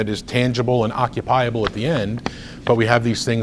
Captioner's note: rustles papers